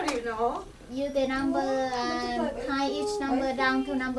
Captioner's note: voiceover